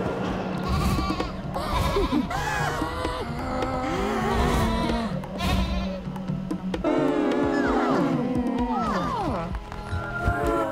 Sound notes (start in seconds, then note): 0.6 cultists wailing and gnashing